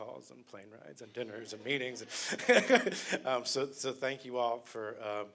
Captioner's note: laughter